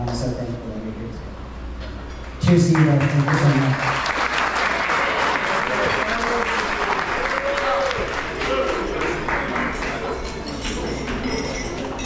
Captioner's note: applause